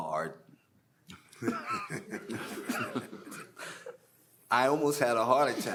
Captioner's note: panelists laughing